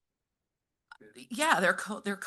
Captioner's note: speaking faintly